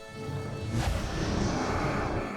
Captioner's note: woosh of flames